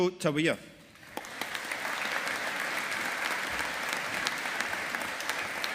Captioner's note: audience applauding